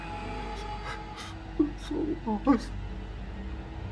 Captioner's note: person crying